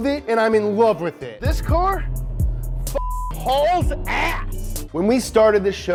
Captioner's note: beep